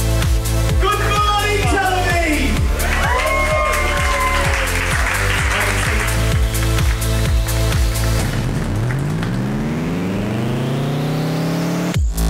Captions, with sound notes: - Good morning, Tel Aviv! (cheering) (electronic music)